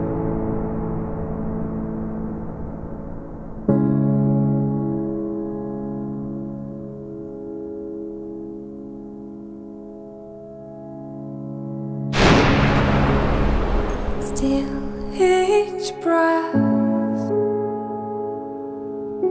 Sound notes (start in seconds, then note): 12.2 gun blasting